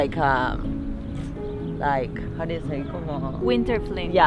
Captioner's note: speaks in foreign language